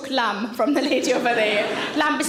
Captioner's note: audience laughing